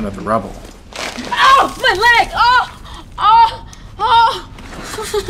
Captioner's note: yelling